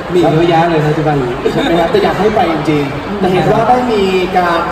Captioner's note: laugh